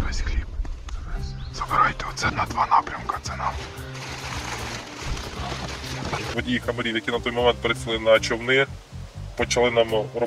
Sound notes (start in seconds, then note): 3.3 plastic wrapper rustling sounds